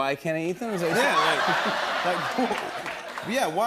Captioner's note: laughter